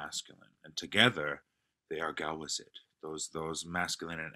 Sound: non-english speech

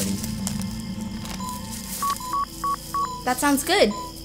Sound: beeping

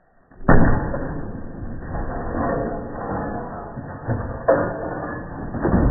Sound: glass shatters

